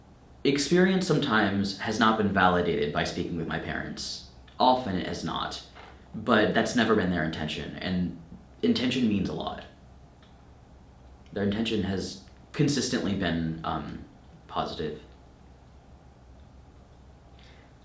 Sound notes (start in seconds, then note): none